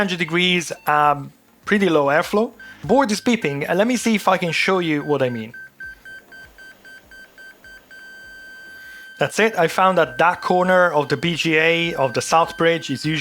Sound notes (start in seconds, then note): 5.7 beeping